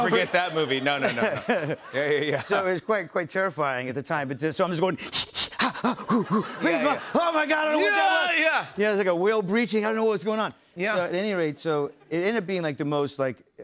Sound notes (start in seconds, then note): 5.0 breathing rhythmically; 8.5 screams